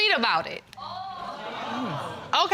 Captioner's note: audience exclaiming